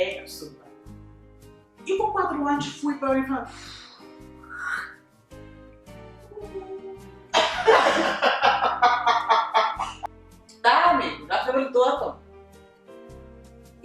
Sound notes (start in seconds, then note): 7.1 owl sound; 7.3 laughs